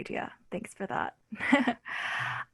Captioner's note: laughs